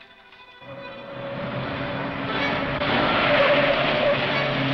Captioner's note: squealing wheels